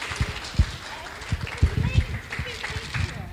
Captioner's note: clapping